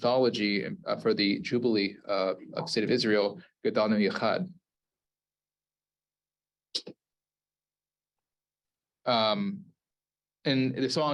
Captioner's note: Hebrew